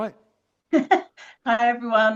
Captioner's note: chuckles